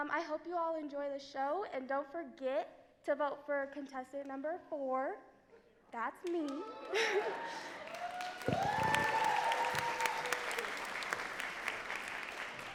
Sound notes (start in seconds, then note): 6.3 crowd cheering and clapping; 6.6 laughing